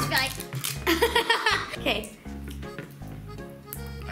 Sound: laughs

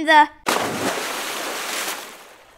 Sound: splash

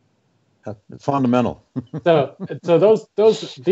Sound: laughs

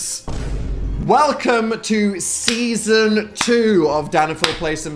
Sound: explosion noise; Phil clapping; clapping

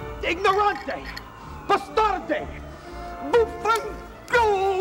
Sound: in foreign language

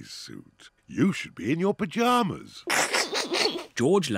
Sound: chuckles

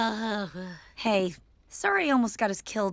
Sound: sighs dramatically

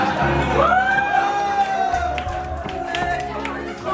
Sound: cheering, laughter

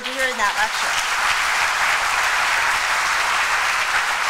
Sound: applause

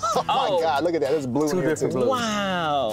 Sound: laughs

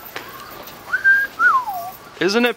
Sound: whistle

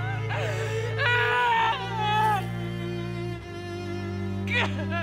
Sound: lover sobbing

